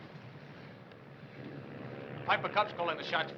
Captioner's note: plane whirring